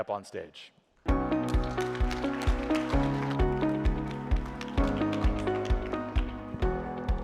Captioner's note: audience applauds; gentle upbeat music